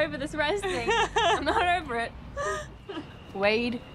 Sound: Kerri laughing

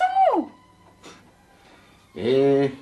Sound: scoffs

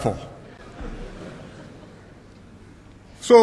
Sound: laughter

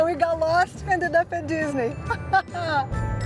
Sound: laughs

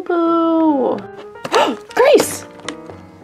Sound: Angie gasps

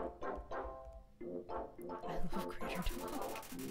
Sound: whispers

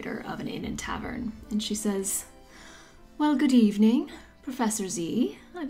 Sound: begins to speak in a light Irish accent

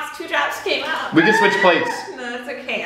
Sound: screams

